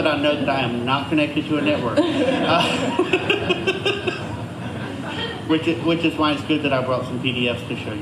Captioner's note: laughter